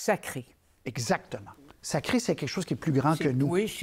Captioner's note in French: marmonnement